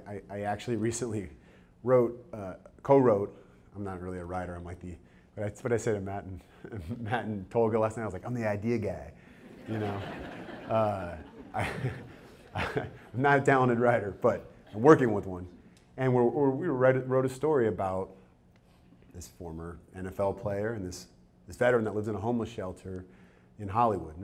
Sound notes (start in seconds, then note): 9.4 audience chuckles